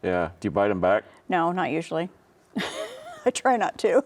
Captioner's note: laughs